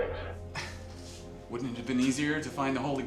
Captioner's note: laughs